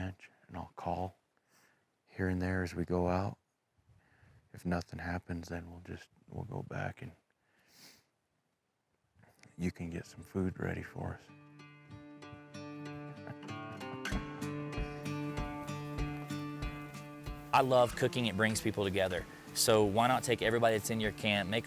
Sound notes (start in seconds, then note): 13.2 chuckles; 13.8 upbeat music